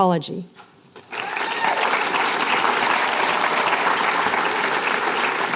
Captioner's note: applause